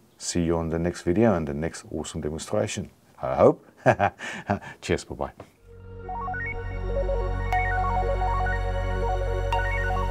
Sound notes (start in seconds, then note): 3.8 laughs; 5.6 bright music